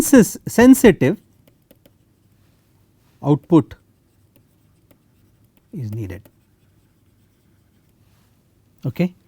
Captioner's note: timer